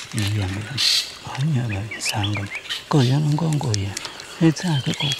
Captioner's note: foreign language